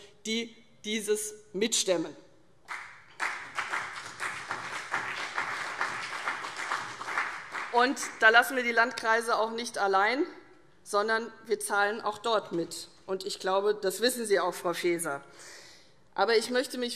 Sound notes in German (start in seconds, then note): 2.6 Beifall CDU und BÜNDNIS 90/DIE GRÜNEN